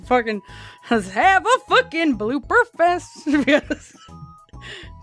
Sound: laughs

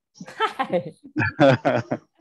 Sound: chuckling

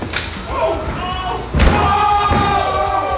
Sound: cheering; loud thud

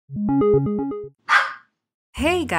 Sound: start sound, dog barks

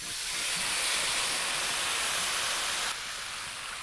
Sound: loud sizzling

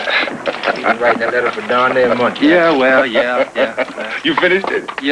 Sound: laughter

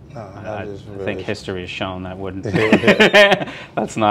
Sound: laughs

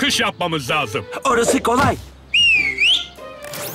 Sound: whistles

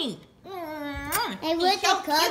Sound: kissing sounds

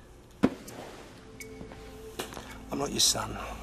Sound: shoving of bag

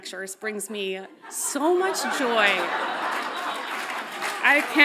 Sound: audience laughs loudly

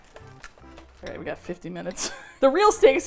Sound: laughs

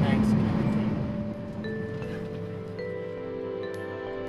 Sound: bells chime

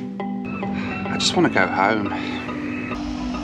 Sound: sighs

